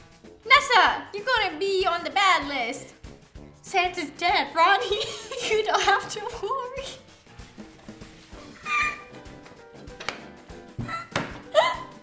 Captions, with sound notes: [Rapping] Nessa, you're gonna be on the bad list. Santa's dead. Roni, you don't have to worry. [Laughter] [Laughing histerically]